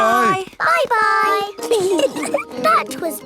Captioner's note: giggling